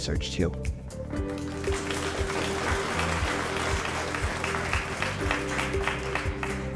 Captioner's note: gentle electronic music; audience applauds